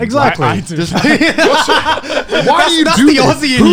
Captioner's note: laughs